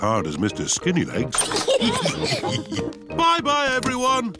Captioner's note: all laugh